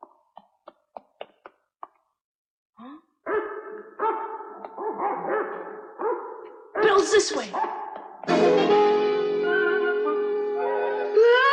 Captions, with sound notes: [Belle barking] Belle's this way!